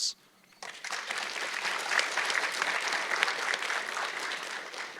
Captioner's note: audience clapping